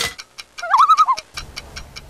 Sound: loon call

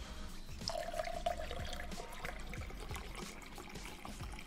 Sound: liquid sloshes

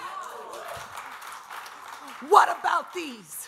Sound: audience applause

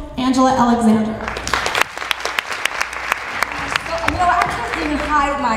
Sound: applause

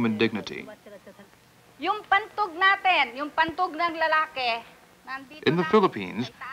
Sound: woman speaking Tagalog

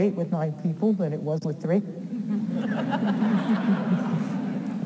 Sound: audience laughs

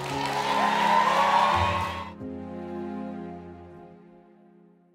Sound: cheering and applause

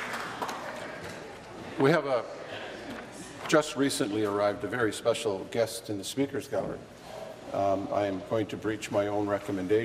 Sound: applause

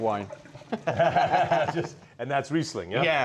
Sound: both laughing

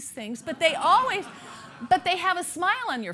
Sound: laughter

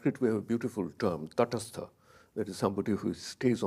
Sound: speaks in a foreign language

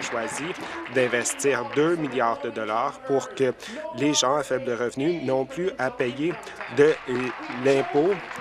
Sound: applause

